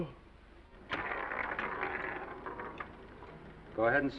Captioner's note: dice clattering